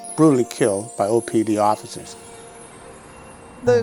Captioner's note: soft dramatic music; traffic whirring